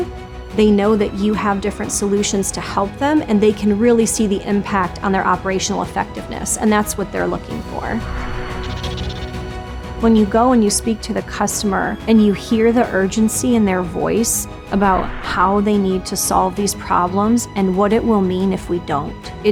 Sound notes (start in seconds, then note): 7.6 air whooshing; 8.3 epic music